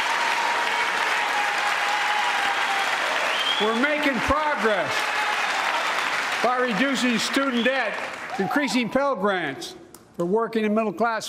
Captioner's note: applause